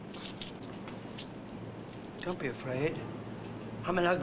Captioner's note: none